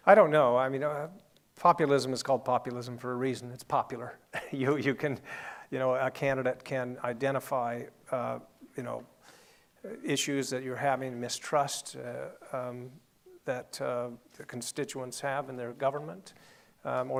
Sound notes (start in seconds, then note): 4.3 laughing